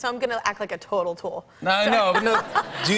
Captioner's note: laughter